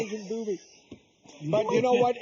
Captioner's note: laughing